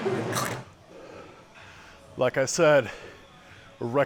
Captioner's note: squelchy crunching; sighs